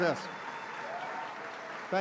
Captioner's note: applause